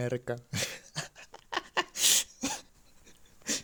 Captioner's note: laughs alone at night